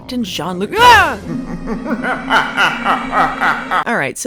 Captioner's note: evil laugh